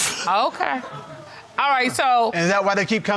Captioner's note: laughing